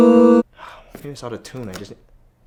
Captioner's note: sigh